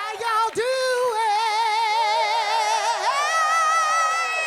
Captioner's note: audience cheering